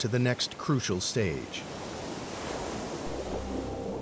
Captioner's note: waves crashing